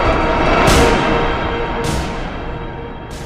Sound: gun shot

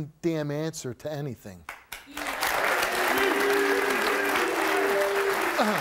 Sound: audience applauds

